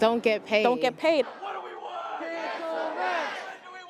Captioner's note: crowd protesting